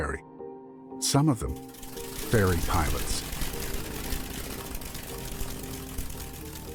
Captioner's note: propeller swishes